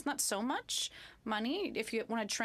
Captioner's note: speaking French